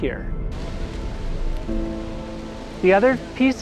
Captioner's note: fire crackling